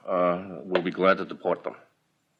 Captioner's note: archival news audio